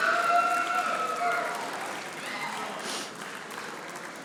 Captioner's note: audience applauding